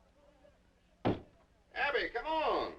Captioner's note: door knocking